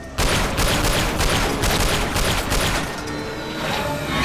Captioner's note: gunshot